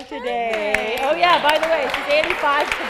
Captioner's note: audience applauding